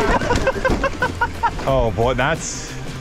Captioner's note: laughs